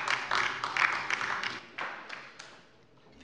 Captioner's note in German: Beifall bei der LINKEN